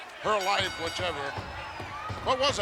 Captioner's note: bell ringing